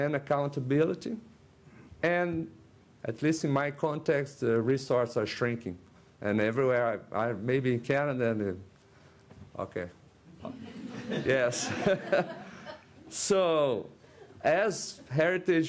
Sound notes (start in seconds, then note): 10.4 laughter from audience